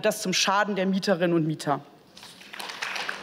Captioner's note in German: Beifall